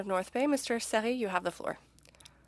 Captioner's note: speaking French